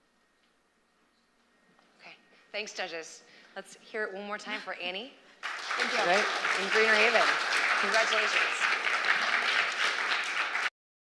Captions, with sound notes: Thanks, judges. Let's hear it one more time for Annie. [APPLAUSE] And Greener Haven. Congratulations.